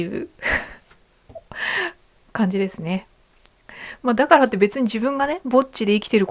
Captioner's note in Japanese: 息をのむ音